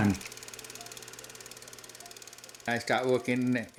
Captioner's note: reel winding